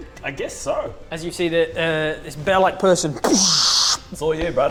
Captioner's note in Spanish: boosh